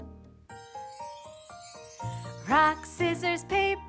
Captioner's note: chimes ring